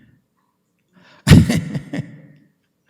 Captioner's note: laughs